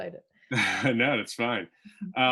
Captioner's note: chuckles